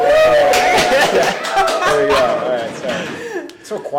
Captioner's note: audience roars; laughs